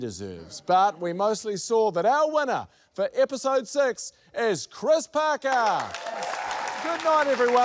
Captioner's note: cheers, applause